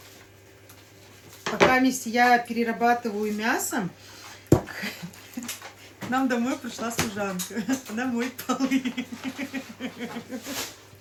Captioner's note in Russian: смех